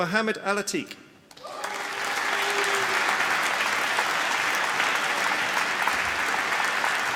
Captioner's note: applause